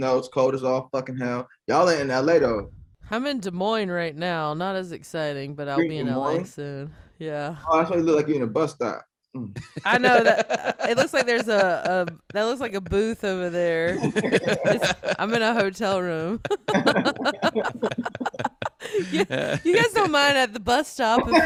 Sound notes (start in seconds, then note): 16.8 all laughing